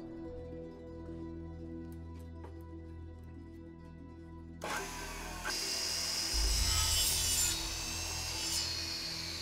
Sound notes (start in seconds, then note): 4.6 saw whining